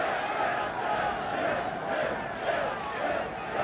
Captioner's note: crowd shouting